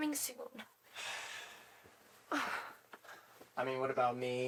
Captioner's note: Chad sighs